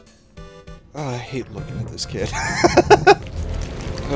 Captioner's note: chuckle